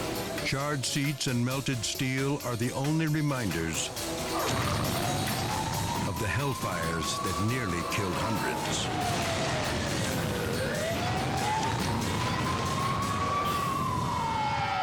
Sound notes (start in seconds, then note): 0.0 dramatic music; 4.2 gas tanks exploding; 8.7 sirens wailing; 12.3 fire roaring